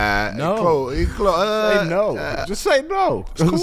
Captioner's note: groans hesitantly